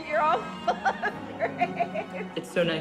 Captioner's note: laughing